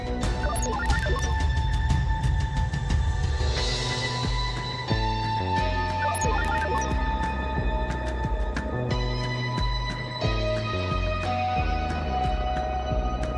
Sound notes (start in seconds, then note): 0.3 computer beeps; 6.0 computer beeps